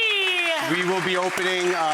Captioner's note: audience clapping